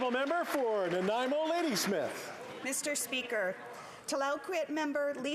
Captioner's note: applause